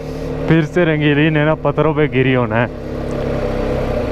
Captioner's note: motorcycle